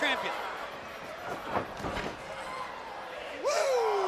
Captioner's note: crowd chatter